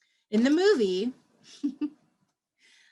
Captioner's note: laughter